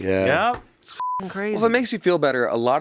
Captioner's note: beep